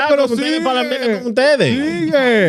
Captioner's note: speaking In Foreign Language